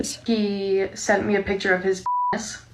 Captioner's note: beeps